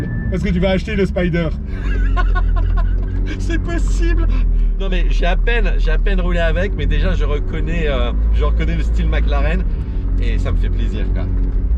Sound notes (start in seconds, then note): 1.7 laughs